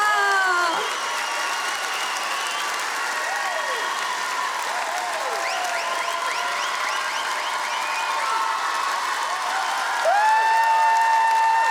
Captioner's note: applause